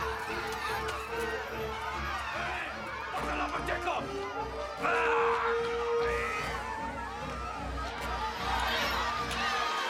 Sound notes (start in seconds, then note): 2.9 shouting in hindi